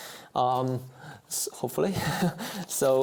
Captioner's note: chuckles